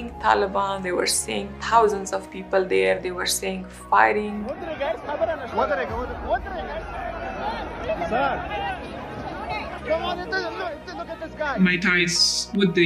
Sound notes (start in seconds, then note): 3.8 foreign language; 3.8 sad music